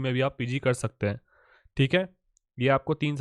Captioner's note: American accent